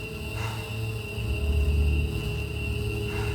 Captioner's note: breathing heavily